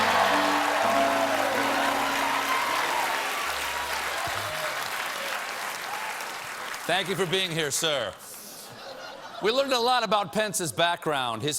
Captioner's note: cheers and applause